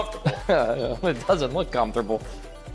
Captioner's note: chuckling